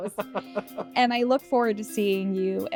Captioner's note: both laughing